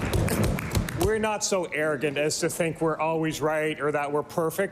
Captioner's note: applause